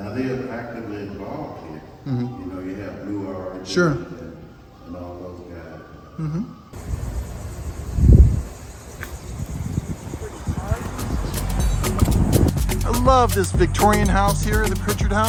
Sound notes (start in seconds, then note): 6.7 wind blowing